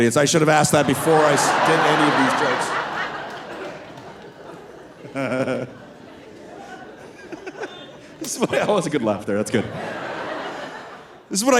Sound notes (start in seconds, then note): 5.0 laughing; 10.5 audience laughing